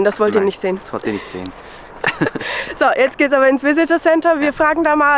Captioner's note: laughter